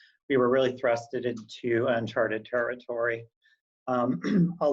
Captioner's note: clears voice